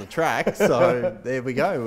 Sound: laughs

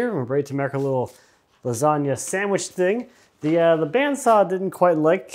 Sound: none

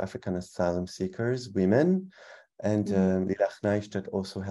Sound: speaking in foreign language

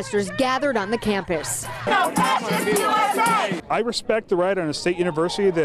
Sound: cheers and Applause

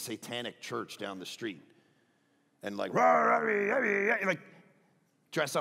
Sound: roars

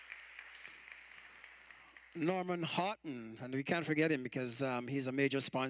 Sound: applause

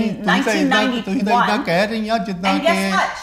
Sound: Father speaking Punjabi

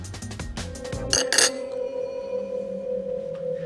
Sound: fork clattering; suspenseful music

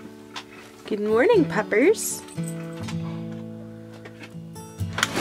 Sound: door opens

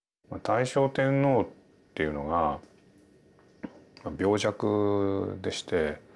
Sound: speaking in foreign language

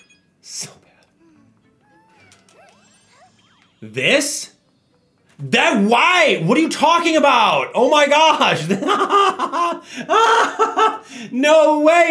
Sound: laugh

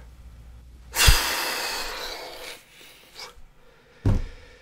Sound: exaggerated breath

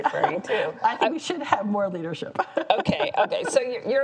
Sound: chuckles

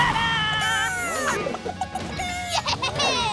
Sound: clucking

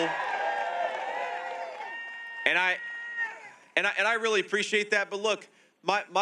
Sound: crowd cheering and clapping

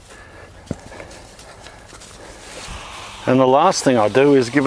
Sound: soil crunches

